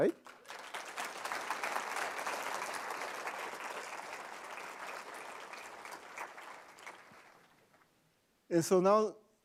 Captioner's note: applause